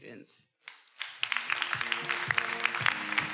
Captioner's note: everyone applauding; upbeat music